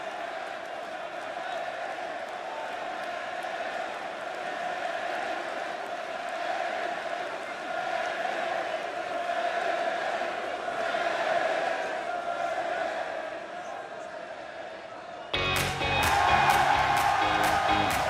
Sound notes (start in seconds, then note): 0.2 crowd cheering; 4.9 crowd cheering